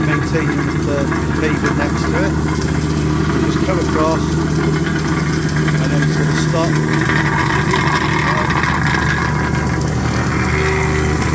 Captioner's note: wacker plate sound